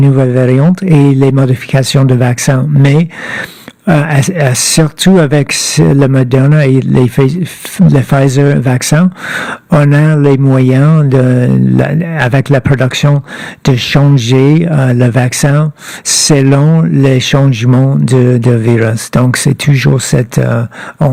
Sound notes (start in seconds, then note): 2.1 speaking French